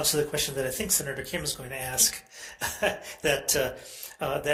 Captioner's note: chuckles